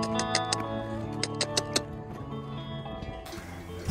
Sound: clicking

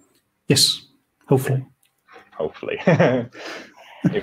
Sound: everyone laughs

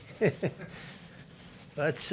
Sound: laughs

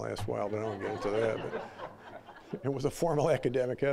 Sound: audience laughing

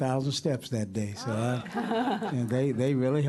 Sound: laughter

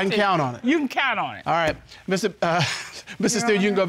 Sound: chuckles

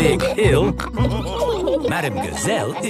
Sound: all laughing

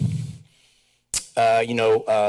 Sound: tongue clicks

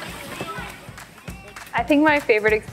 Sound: people chattering

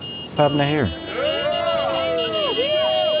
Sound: honking

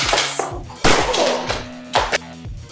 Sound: bang!

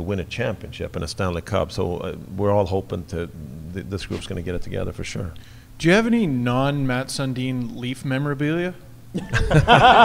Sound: everyone laughs

